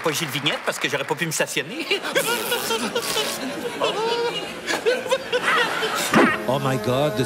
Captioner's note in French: rires